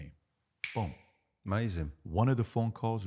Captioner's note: snapping fingers